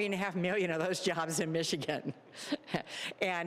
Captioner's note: laughing